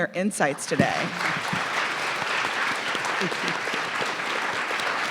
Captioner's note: audience clapping